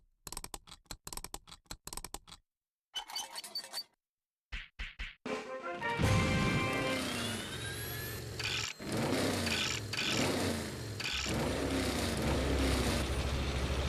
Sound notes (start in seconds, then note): 0.3 whirring; 6.0 engines revving